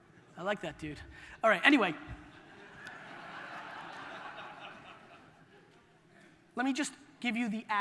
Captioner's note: audience laughter